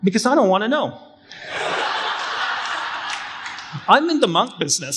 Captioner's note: crowd laughing